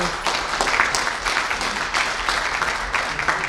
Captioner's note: applause